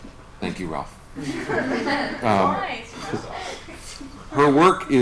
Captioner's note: laughter